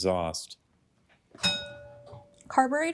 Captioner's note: bell dings